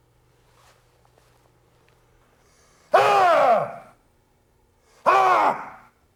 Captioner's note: yells